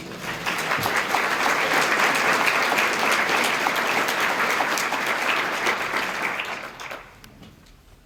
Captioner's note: applause